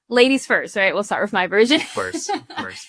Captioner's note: chuckles